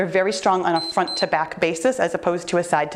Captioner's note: timer beeps